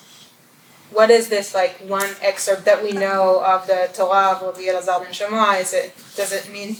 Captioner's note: hebrew